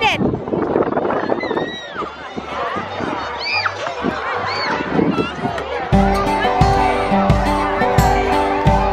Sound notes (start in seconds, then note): 2.5 children playing; 5.9 upbeat music